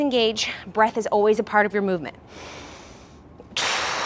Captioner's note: breathes loudly